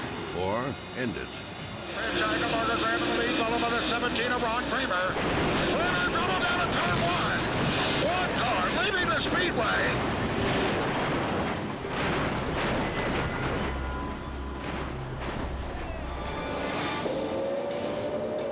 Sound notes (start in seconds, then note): 10.2 car clashes; 13.2 ominous music; 15.7 dramatic music